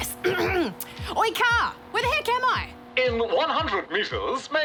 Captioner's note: clears throat